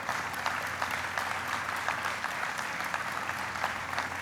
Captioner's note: applauding